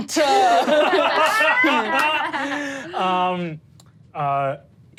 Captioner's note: all laugh